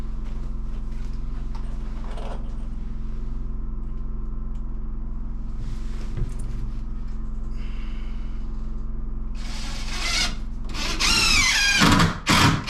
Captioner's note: drilling